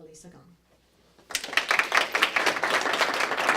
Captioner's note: applause